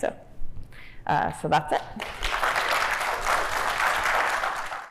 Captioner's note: crowd applauding